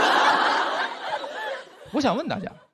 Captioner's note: audience laughs